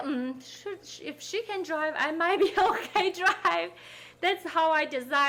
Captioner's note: laughing